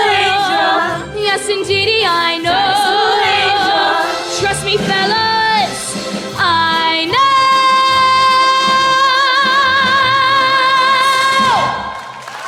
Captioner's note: screaming